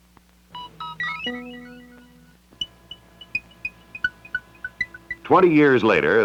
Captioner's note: Electronic audio effects